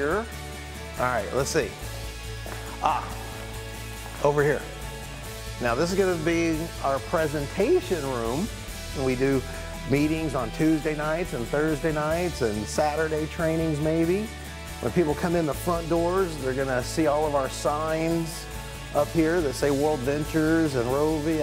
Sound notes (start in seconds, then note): none